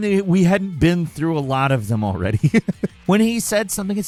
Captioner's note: laughs